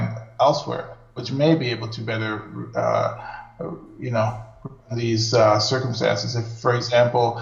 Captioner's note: audio skips